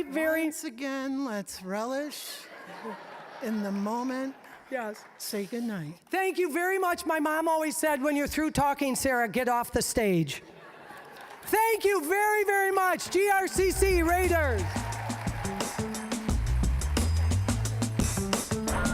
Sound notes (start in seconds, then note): 2.3 audience laughing; 10.4 audience laughing; 15.7 upbeat music